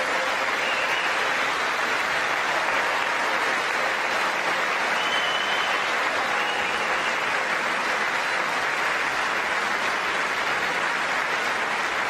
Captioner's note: applause